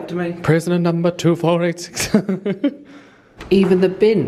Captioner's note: laughs